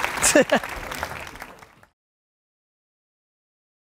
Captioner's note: audience applauds; Gary laughs